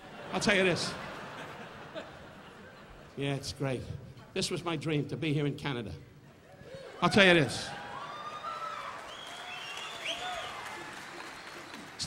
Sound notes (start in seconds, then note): 0.0 audience laughing; 7.0 audience cheering; 9.7 audience applauding; 9.7 audience whistling